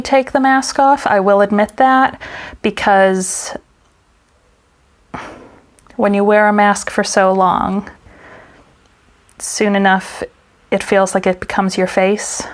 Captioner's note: sigh